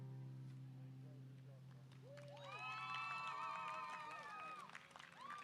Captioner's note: audience applause